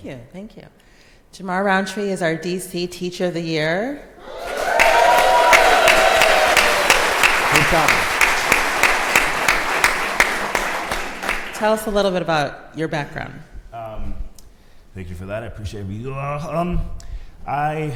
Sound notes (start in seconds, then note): 4.2 crowd applauds